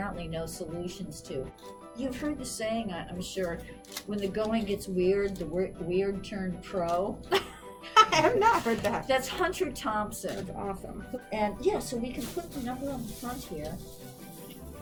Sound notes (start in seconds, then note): 7.8 laughs